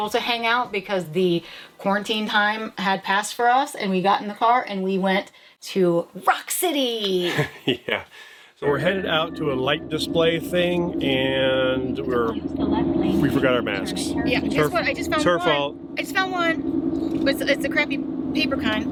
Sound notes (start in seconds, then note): 7.2 chuckles